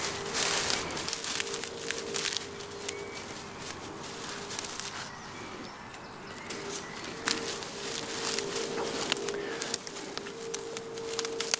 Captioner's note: dry foliage rustling sounds